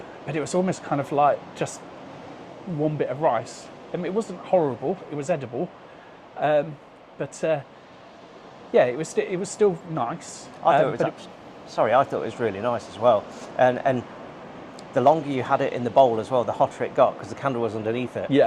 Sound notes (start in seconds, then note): none